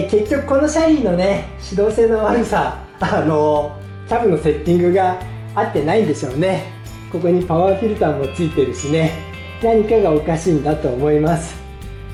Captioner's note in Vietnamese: cười